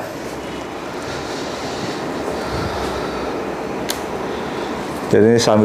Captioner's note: moving tray sound